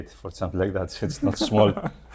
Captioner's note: laughs